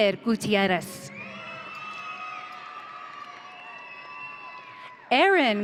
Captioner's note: audience cheering